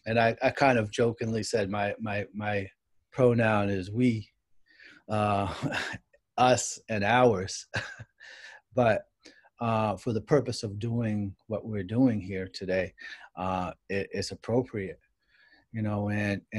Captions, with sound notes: And I kind of jokingly said my pronoun is "we," "us," and "ours." [CHUCKLES] But for the purpose of doing what we're doing here today, it's appropriate.